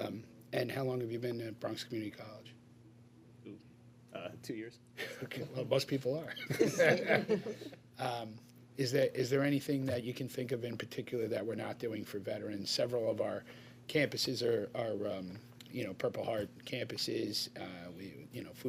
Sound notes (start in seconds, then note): 6.3 laughter